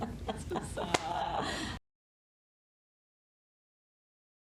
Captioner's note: hands slapping